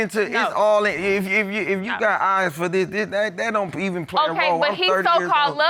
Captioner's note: stutters